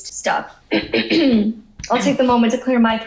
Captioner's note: coughing